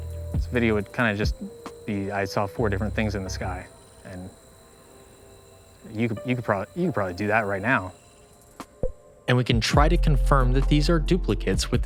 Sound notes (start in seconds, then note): 6.1 stammering